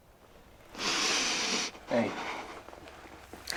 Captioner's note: breathes deeply